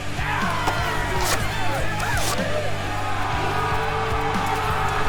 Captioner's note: battle Cries